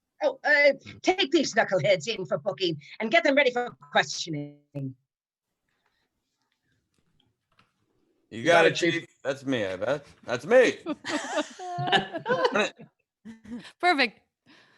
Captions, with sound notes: - Oh, take these knuckleheads in for booking and get them ready for questioning. - You got it, Chief. - You got it, Chief. That's me I bet. That's me! (all laughing) - Perfect.